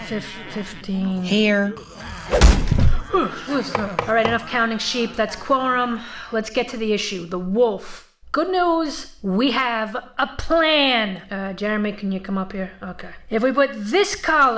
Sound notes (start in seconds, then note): 2.0 thwacking sound